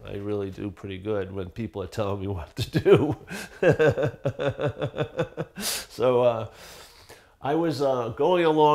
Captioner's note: laughing